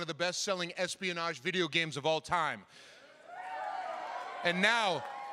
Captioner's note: cheering